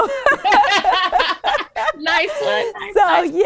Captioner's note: both laughing